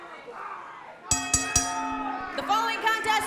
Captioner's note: bell ringing